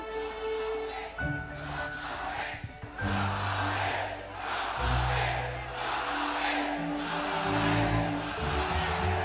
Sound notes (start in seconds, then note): 0.6 audiences yelled "Jokowi"